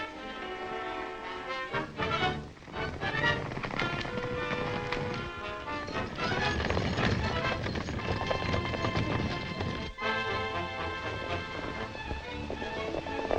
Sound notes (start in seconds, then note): 0.0 exciting music; 0.0 horses galloping; 2.3 horses galloping; 10.3 horses galloping